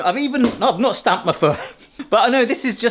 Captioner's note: foot stamps